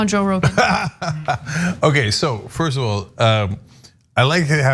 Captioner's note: laugh